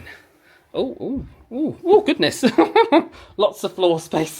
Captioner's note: chuckles